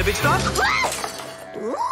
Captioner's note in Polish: krzyczy